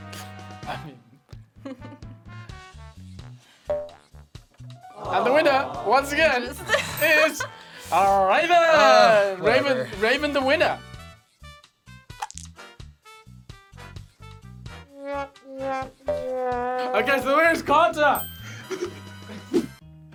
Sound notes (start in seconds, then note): 0.1 laughs; 4.9 crowd; 7.7 laughs; 12.2 dice clatter; 14.8 sad trombone music; 18.6 laughs